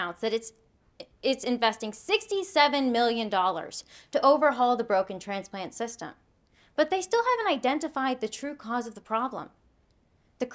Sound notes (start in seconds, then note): none